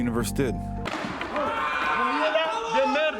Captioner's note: loud crash followed by yelling off camera